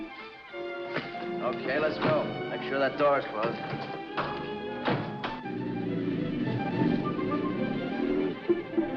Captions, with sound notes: Okay, let's go. Make sure that door's closed. - [door closes] - [lock clacks]